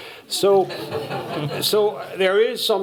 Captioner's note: laughter